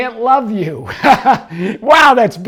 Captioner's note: laughing